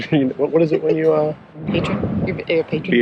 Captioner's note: laughing